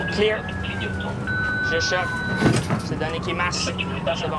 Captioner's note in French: bip de l'appareil